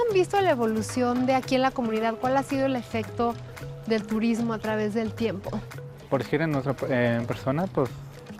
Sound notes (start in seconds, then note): 5.3 brother speaking Spanish